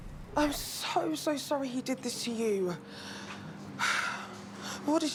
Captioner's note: sighs